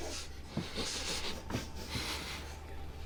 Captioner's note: all sniff